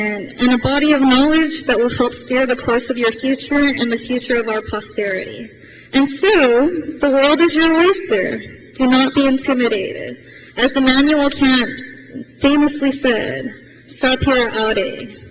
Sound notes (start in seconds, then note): none